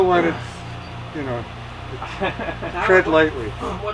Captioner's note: laughs